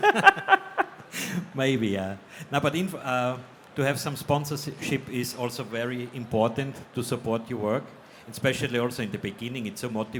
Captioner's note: laughs